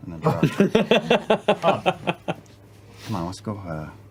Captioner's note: laughter